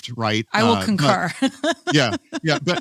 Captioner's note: laughs